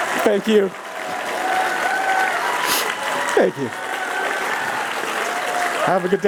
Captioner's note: cheers